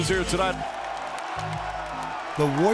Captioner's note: crowd cheering